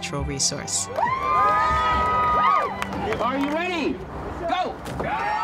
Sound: cheering; cheering

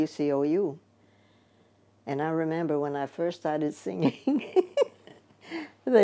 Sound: laughs

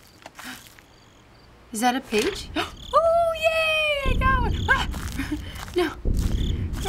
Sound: gasp

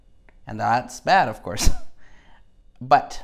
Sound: laughs

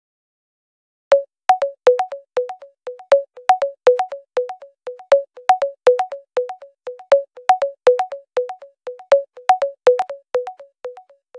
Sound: sound of ringtone on hold

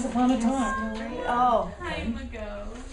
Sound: students talking

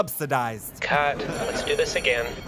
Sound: ringing

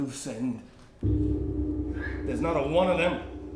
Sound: bell rings

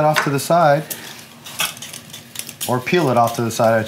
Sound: clinking

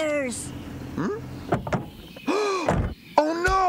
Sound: car Doors Close; gasps

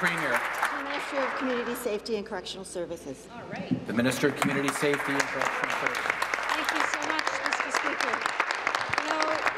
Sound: some Applause

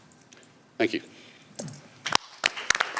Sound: applause

